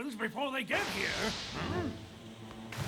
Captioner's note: loud Thunderclap